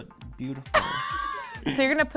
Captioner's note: laughs